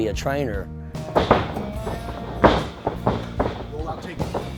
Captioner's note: rustling sound